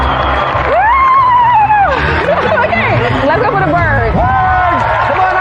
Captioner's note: whooping excitedly